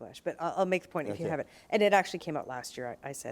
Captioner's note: both chuckle